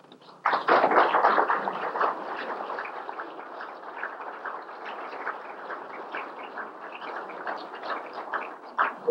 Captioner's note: applause